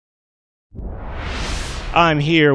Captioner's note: wooshing sound